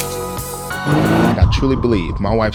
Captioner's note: car engine sounds